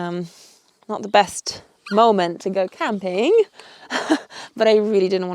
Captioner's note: chuckles